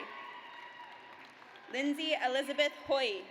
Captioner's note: audience applauds